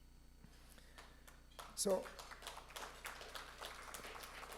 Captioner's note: audience applauds